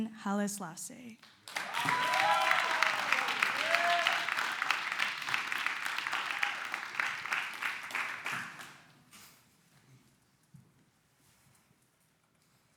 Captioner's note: clapping